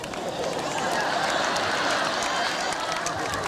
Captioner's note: audience applauds and laughs